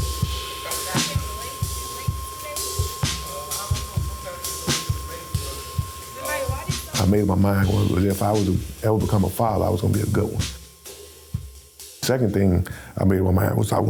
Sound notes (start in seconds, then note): 0.6 students chattering